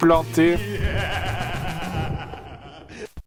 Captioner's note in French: rires démoniaques